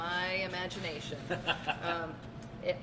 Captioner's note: laughing